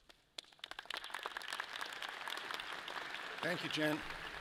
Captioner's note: audience applauds